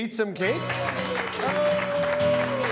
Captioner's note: all applaud